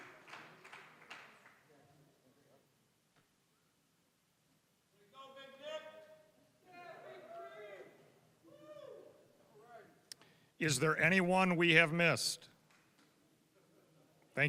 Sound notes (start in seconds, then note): 0.0 applause; 8.5 students cheering